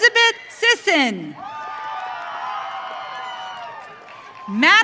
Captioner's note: audience cheering